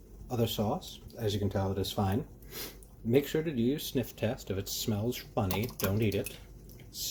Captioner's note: big sniff